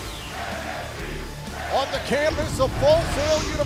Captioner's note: fans chanting